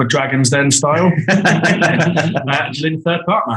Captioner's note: group laughing